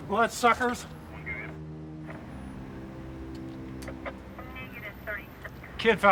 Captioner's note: people chattering on police radio